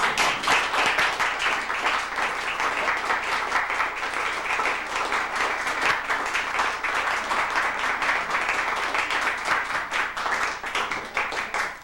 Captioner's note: applause